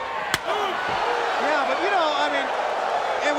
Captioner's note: crowd cheering; chop striking